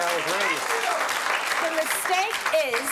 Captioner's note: audience applauding